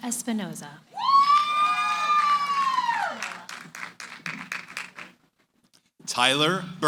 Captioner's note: cheering, applause